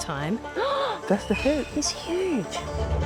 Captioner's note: gasps